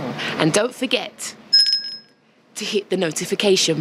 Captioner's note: bell rings